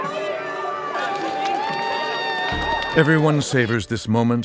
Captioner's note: cheering